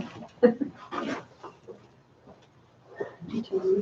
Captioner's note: laughs